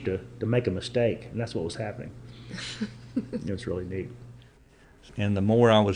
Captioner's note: laughs